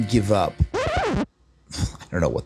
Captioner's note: record needle skips